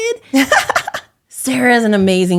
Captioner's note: laughing